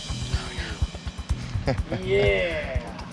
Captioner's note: whispering; all chuckling